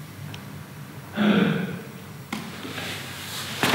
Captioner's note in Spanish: sonido de sorpresa